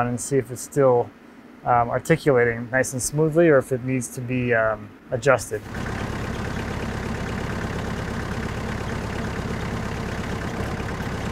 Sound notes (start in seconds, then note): 5.3 heavy engine rumbling